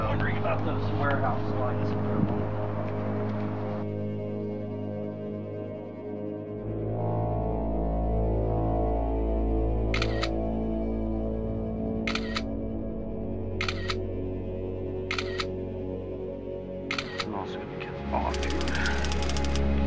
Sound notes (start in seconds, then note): 4.4 ominous music; 9.9 camera snapping